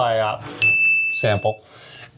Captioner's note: dinging